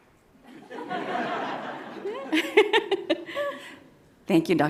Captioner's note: all laugh